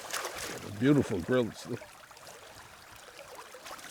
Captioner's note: water gurgling